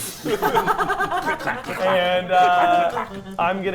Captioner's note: players laughing